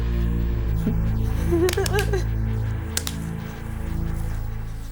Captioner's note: whimpering